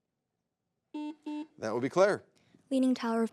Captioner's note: button blips